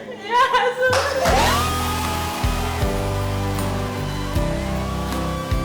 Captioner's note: crowd cheers wildly; emotional music